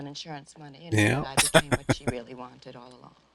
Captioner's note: chuckling